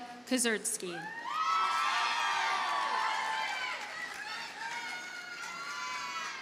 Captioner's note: audience cheers and applauds